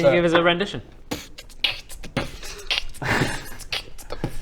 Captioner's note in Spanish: beatboxing